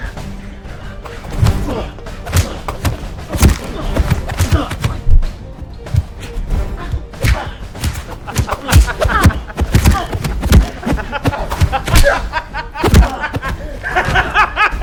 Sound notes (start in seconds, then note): 10.6 laughing